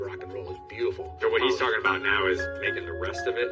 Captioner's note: laughs